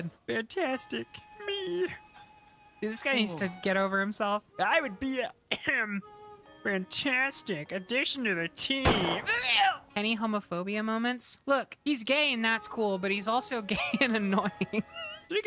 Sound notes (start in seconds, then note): 0.1 As Calip, Muppet Voice; 5.5 ahem; 8.8 Gunshot, Calip Keels Over